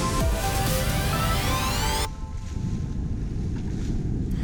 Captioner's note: rolling waves